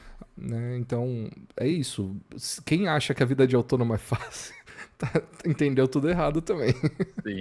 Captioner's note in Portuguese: risadas